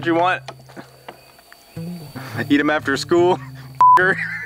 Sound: beep; laughing

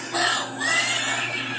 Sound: laughing

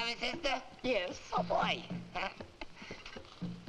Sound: laughs

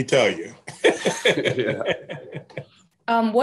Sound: laughs

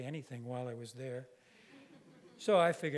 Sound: audience laughing

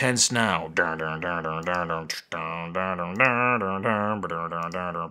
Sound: beatbox sounds

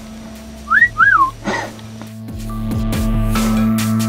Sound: whistle & laughter

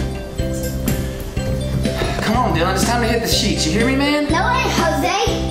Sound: sighs

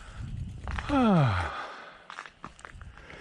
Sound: sighs

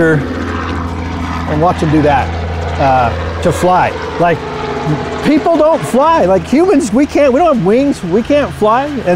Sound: refers to aircraft sounds in background

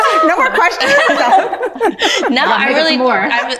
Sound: all laughing

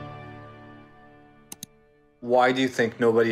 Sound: music fades; mouse click

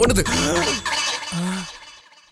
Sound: gasps

